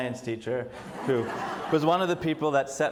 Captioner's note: audience laughs